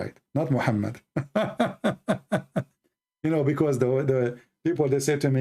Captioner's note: Ketawa